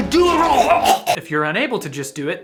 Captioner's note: choking